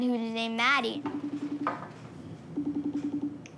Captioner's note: skype dial tone plays